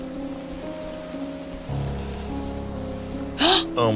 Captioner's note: flames hissing